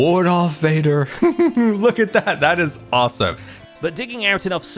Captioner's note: giggles